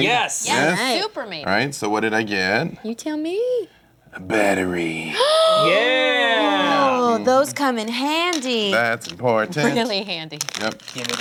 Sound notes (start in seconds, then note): 5.1 gasping